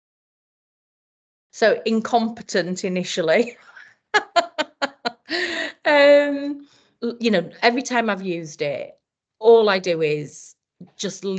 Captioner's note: laughs